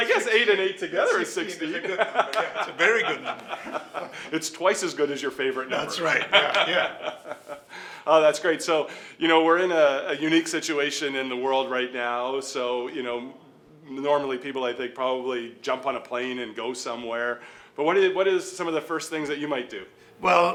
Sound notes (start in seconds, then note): 1.1 laughing; 2.2 clapping; 5.7 laughing